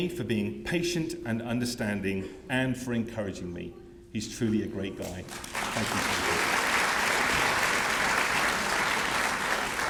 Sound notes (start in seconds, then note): 5.1 applause